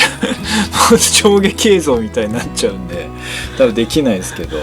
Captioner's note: laughter